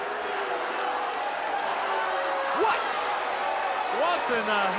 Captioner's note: crowd booing